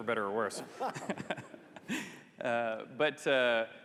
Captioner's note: laughs